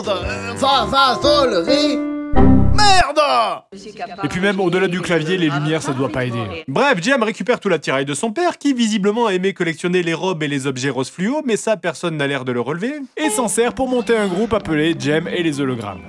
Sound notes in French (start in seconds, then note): 2.3 Son de Windows qui plante